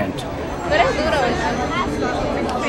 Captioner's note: people talking